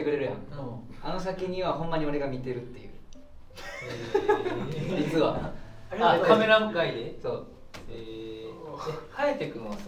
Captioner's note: everyone laughs